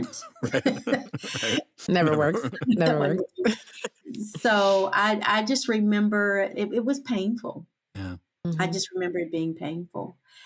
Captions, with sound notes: Right, right. [everyone laughs softly] Never works. Never works. So I, I just remember it, it was painful. I just remember it being painful.